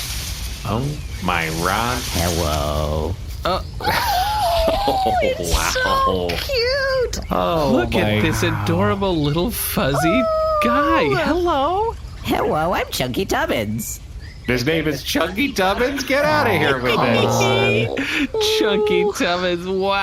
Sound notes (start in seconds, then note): 3.4 giggling; 18.2 giggling